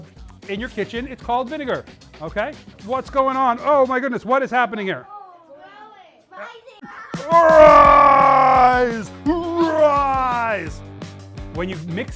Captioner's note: screaming